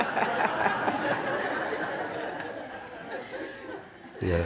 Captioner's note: laughter